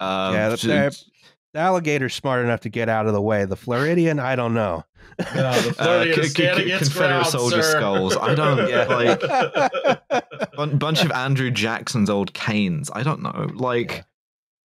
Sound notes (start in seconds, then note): 6.6 laughs; 8.5 laughs; 10.1 laughter